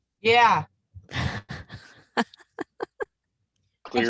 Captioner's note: laughs